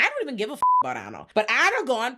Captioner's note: beep